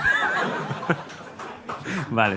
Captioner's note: laughter